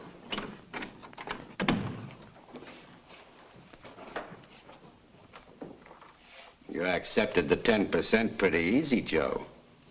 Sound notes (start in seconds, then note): 1.5 door slams